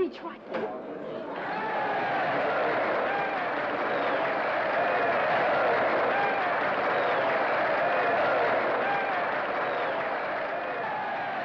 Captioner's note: crowd cheers & applauds